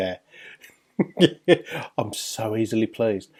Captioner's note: man laughing